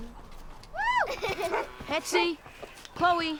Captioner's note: laughter